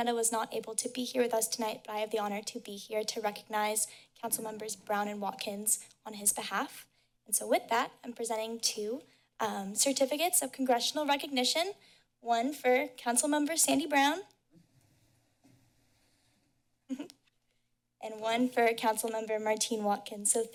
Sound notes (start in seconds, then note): 14.4 pause; 16.9 chuckles